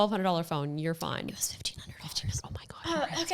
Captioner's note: speaking faintly